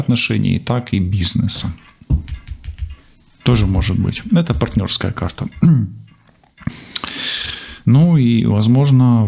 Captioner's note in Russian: откашливается